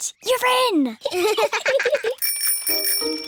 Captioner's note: both laugh; bicycle bell rings